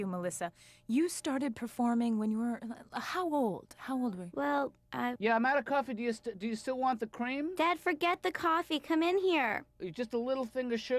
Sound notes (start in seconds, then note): none